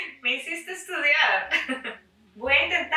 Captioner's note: risas